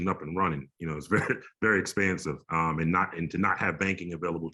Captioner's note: chuckles